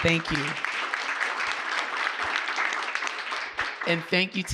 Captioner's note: audience clapping